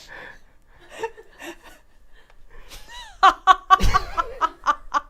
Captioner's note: laugh